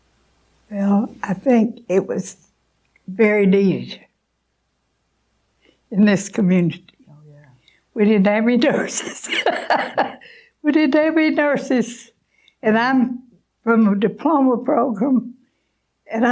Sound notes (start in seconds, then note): 8.8 laughing